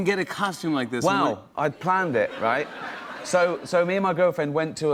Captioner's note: laughter